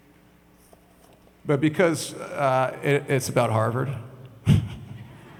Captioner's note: laughs; audience laughs